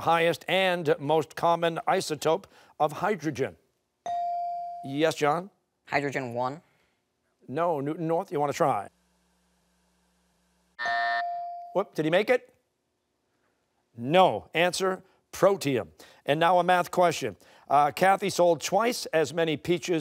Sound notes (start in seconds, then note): 10.8 buzzer; 11.2 bell dings